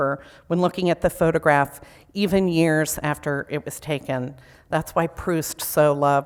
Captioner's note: none